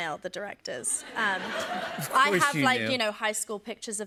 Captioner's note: laughter